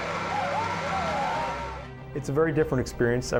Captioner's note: cheers